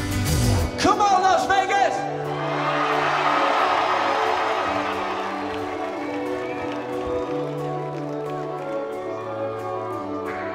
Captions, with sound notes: Come on Las Vegas! (cheers)